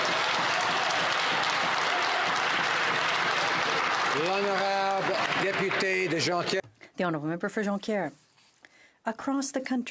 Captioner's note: some Applause